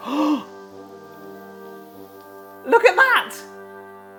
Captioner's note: gasping; laughs